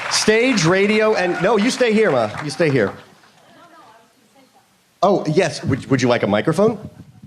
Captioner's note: applause